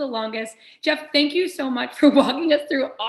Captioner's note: laughter